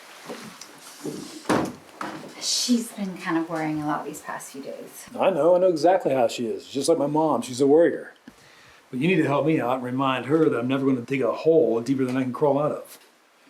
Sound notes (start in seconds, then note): 1.5 door clicking closed